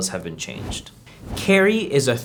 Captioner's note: air whooshing